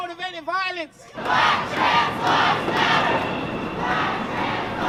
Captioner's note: chanting